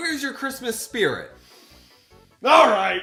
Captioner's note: inhale